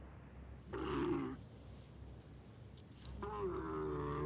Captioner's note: camel groaning